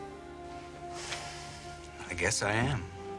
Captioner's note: Glen sighs